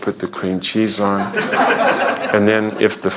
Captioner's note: laughter